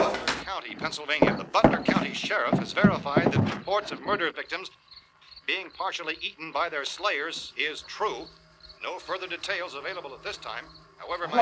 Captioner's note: radio news continues